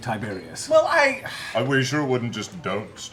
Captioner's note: sighs